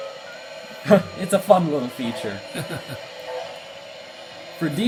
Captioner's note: cameraman laughs